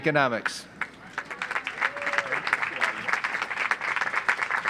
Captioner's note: audience applauds